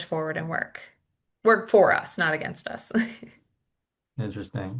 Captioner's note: chuckles